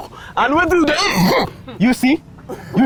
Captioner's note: uncontrollable coughing